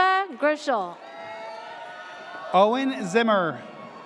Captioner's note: audience cheers